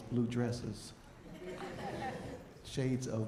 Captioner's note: audience chuckling